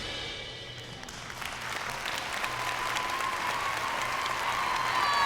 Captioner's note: crowd cheering and applauding